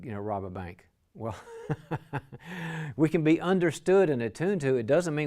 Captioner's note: chuckles